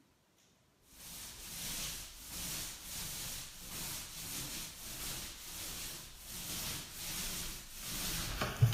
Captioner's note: paint roller sliding on wall